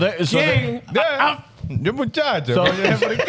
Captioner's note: speaking Foreign Language